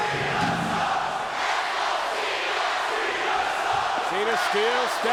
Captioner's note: audience chanting